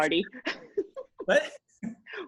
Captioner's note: laughing